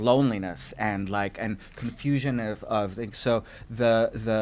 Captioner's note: voice muffled